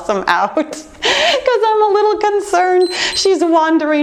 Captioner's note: timer beeps